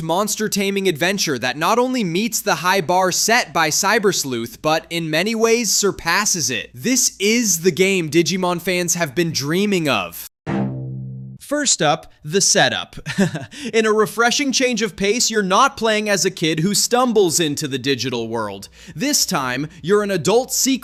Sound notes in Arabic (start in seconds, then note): 13.0 يضحك